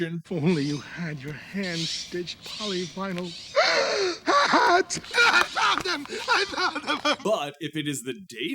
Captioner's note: gasp!